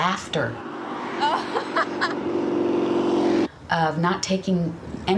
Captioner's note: she laughs